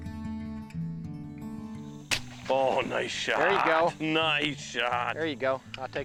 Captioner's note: gunshot